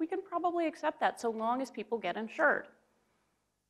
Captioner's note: none